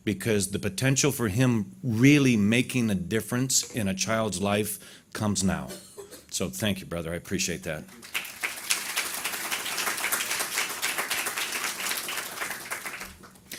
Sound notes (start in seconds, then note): 7.9 audience applause